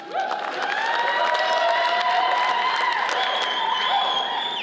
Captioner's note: audience cheers and applauds